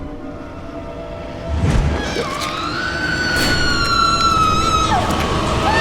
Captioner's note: woman screams